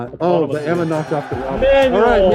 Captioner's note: bell ringing